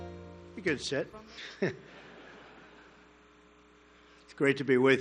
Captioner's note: laughter